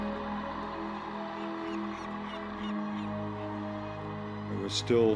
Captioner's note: seagull squawking